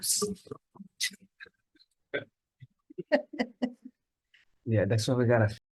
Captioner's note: two Committee members chuckling